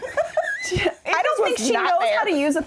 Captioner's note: laughing